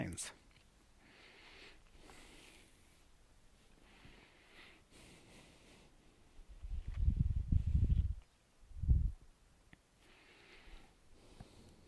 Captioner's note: silence